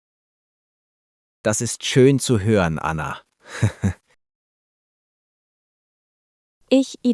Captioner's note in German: lacht